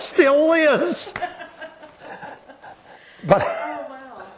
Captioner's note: laughter